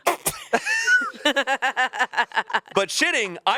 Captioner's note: everyone laughs